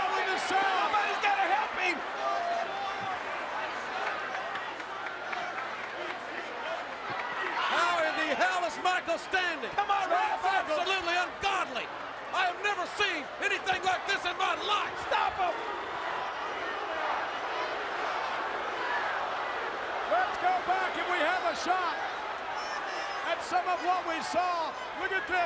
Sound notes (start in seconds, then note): 17.1 crowd chattering